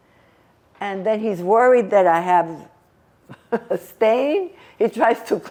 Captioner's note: laughing